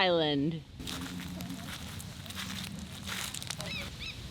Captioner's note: rocks shifting; bird chirping